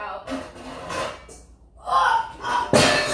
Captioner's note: metal clanging; grunting